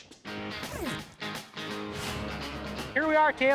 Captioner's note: zipping